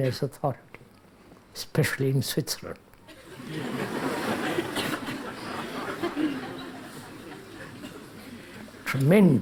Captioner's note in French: rires